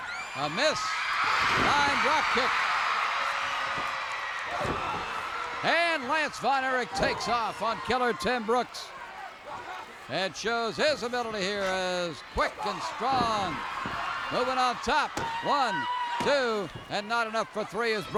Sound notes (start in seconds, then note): 3.0 crowd cheers